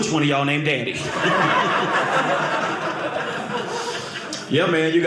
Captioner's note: audience laughing